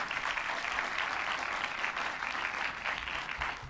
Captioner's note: applause